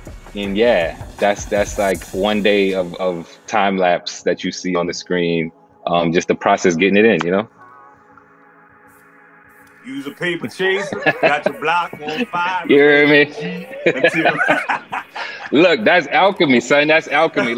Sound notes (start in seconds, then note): 13.2 laughs; 14.7 both laugh